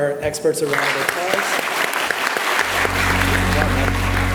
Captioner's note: audience applauding